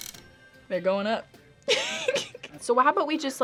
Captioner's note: laughs